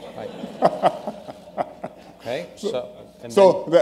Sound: laughter

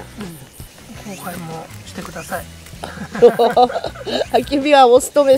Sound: laughs

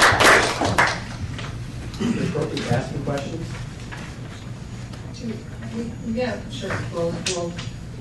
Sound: applause

